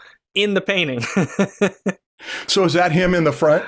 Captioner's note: laughter